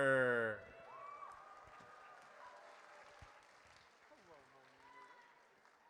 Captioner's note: audience cheers